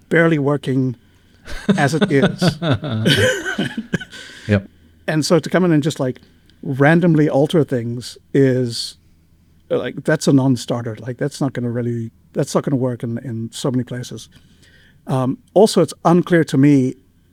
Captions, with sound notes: barely working as it is. (laughing) Yeah. And so to come in and just like randomly alter things is like that's a non-starter. Like that's not gonna really, that's not gonna work in so many places. Also it's unclear to me